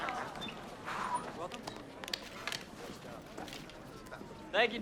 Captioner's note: indistinct conversation